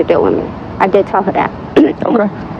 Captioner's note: cleleararing g ththroat